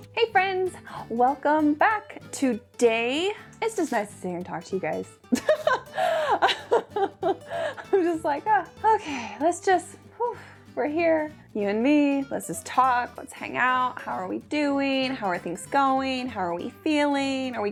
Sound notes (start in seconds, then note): 5.3 laughs